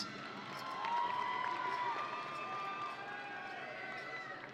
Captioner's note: audience cheering